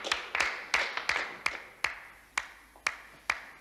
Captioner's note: applause dies